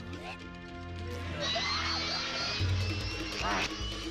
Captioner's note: grunting